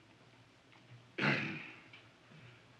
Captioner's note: clears throat